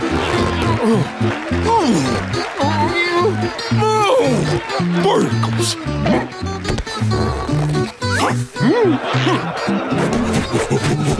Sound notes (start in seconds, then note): 0.0 grunting; 7.0 grunting